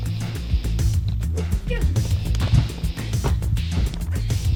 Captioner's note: struggling